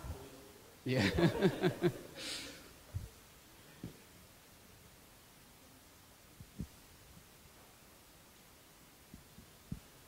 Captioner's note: laughter